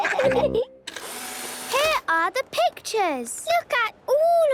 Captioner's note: whirring